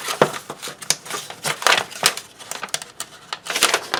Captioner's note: paper rustles